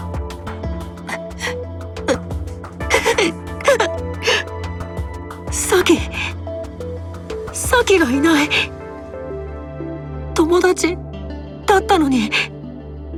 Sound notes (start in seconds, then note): 1.6 sniff; 2.9 sob